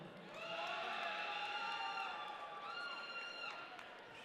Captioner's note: audience cheering